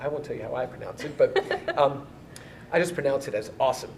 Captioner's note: laughs